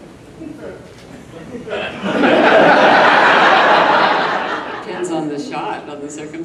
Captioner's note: audience laughs